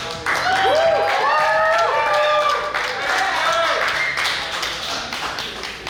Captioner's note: cheering & Clapping